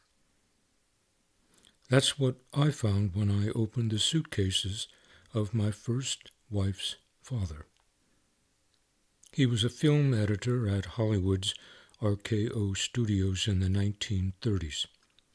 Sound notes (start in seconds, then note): none